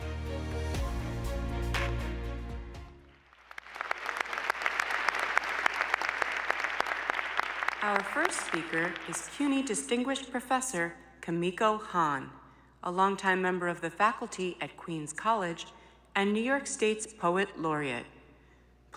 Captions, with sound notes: [ Applause ] >> Our first speaker is CUNY Distinguished Professor Kimiko Hahn, a longtime member of the faculty at Queens College and New York State's poet laureate.